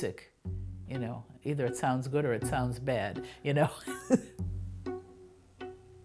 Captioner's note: laugh